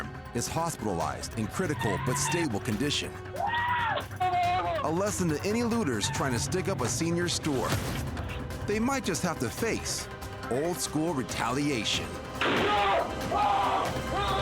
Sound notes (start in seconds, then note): 12.4 gunshot; 12.4 screaming